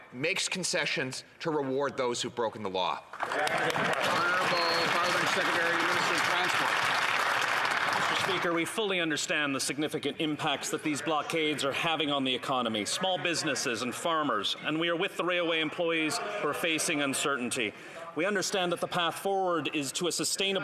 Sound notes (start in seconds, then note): 7.9 applause